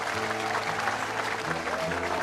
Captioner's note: crowd cheering